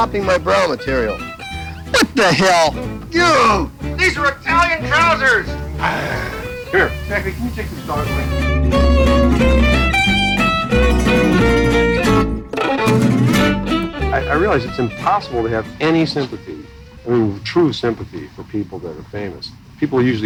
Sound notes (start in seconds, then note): 5.6 growls; 8.8 upbeat music